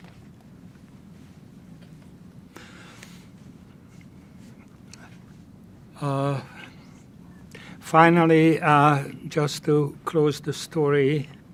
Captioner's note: pauses 8 seconds